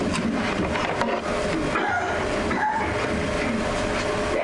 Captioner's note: clattering